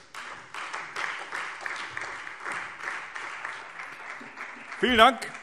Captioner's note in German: Beifall Freie Demokraten